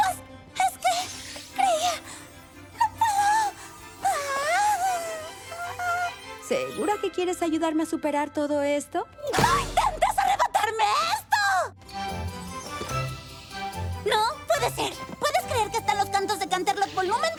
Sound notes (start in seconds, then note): 2.7 wheeze